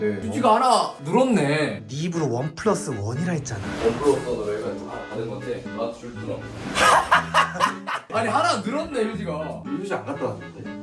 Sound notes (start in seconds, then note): 6.7 awkward laugh explodes